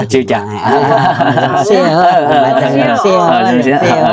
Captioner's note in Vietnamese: tiếng cười